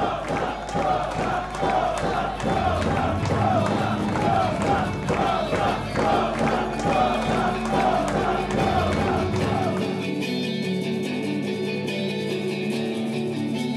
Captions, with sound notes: - [Crowd] Rosa! Rosa! Rosa! (crowd continues to chant) (happy guitar music)